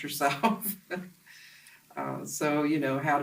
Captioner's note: laughs to self